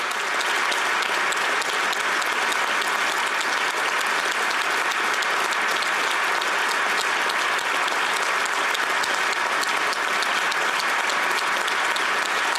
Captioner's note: applause